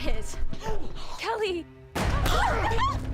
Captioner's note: gasps; gunshot; shrieks